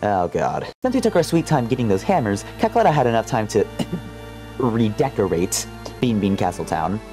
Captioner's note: cough